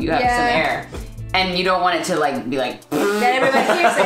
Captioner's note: loud fart